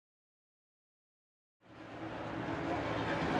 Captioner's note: engine roaring